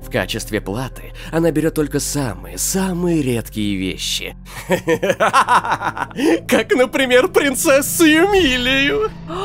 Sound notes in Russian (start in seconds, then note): 4.5 истерический смех